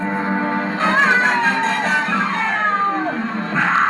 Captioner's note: meowing; growling And Meowing